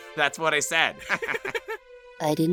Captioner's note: laughter